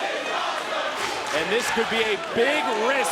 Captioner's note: crowd clapping